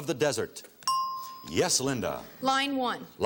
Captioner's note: ting